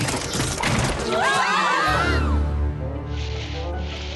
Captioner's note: clattering; screams